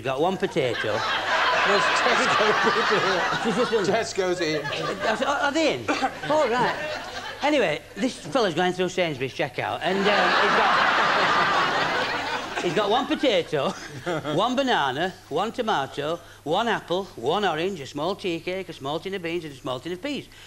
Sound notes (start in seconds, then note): 9.9 laughter